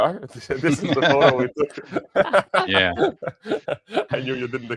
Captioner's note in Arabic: ضحك